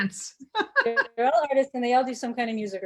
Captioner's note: laughing